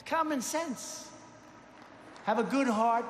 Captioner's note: applause